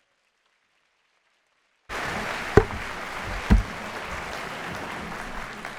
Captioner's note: applause